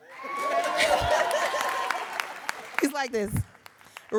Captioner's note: audience cheering and applauding